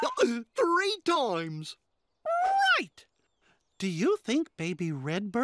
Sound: chuckling

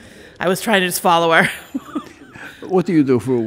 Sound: laughs

